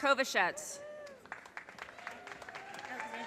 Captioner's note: audience cheers and applause